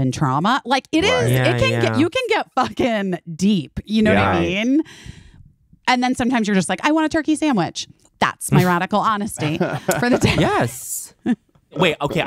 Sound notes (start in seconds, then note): 9.4 laughing